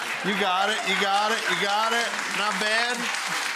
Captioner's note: audience applauding